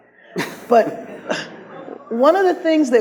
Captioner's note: audience laughs